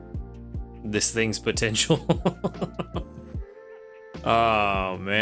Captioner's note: laughs